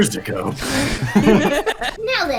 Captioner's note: laughter